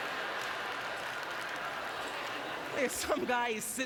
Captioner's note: audience laughter